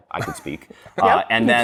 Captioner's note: chuckling